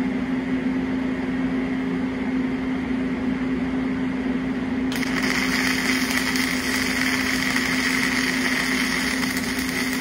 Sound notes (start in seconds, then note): 4.9 crackling